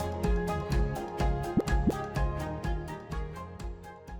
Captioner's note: graphic pops